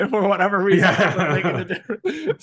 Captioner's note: laughing